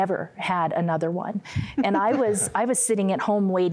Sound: giggling

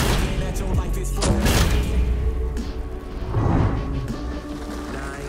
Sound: bomb exploding

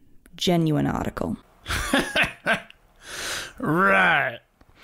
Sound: laughing

